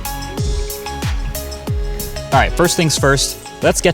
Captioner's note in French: grincement des essuie-glaces